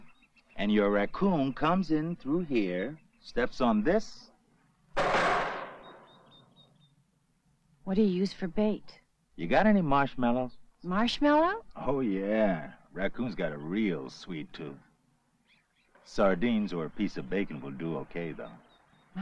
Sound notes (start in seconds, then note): 4.9 loudly clangs